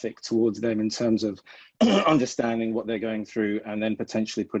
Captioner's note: clears throat